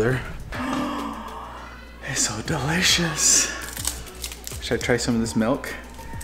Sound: gasps

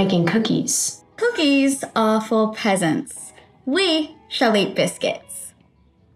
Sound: British accent

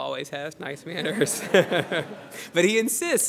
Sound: laughter

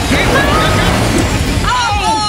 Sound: loud thud

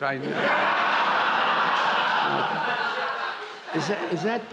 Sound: laughter

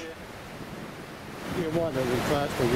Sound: waves crashing

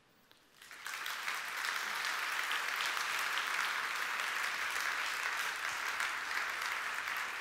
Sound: applause

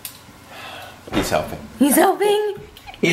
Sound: sighs

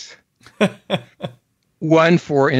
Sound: laughs

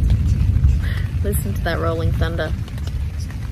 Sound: thunder in the background

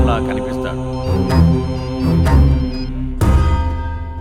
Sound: phone buzzing

